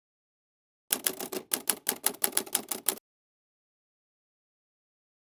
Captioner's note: keyboard clicking